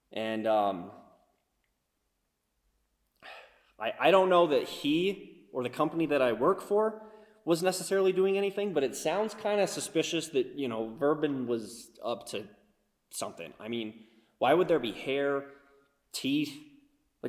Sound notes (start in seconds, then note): none